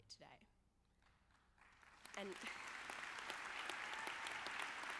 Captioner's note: audience clapping